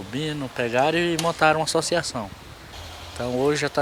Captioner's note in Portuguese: Sons ambiente de rua